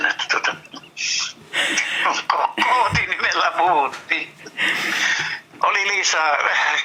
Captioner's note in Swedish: Skratt